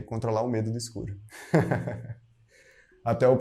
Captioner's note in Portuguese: risos